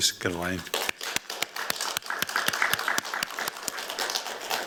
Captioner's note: applause